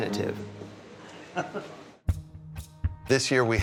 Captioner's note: chuckles